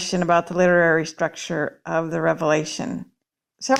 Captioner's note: none